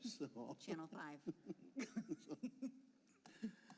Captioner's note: laughter